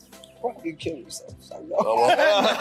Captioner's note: laughs; everyone chuckling